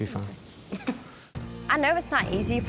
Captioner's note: giggling